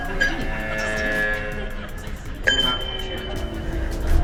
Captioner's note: group chuckles